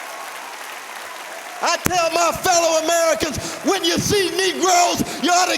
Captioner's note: cheers and applause